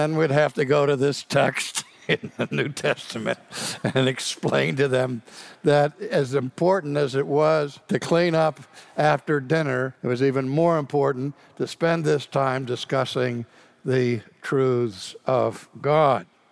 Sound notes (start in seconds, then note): 2.0 laughs